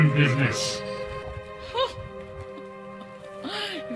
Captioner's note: dazed laugh